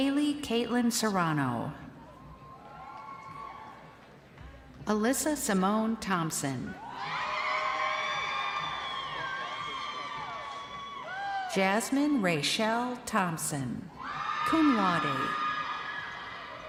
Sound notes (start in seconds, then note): 4.9 crowd cheering